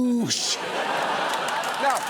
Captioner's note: studio audience laughs, cheers